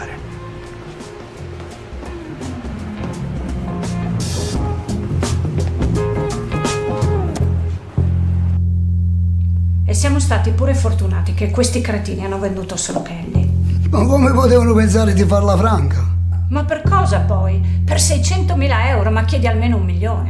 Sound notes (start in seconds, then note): 1.5 fast footsteps